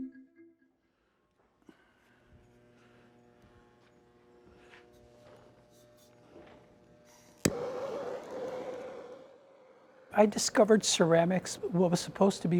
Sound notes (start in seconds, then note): 2.8 machine humming; 7.4 torch hissing